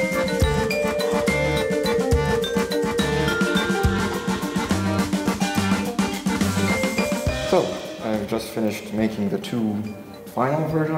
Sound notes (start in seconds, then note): 3.0 drilling noises; 4.7 filing, grinding noises